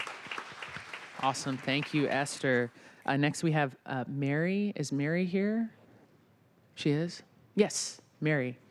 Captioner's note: applause